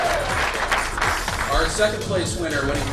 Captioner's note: cheering and applause